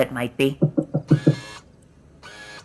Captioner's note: frantic door knocks